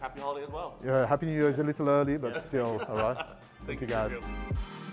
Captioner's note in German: lacht